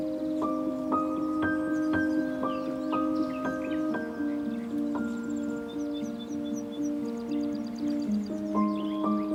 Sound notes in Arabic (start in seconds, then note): 5.8 أصوات طيور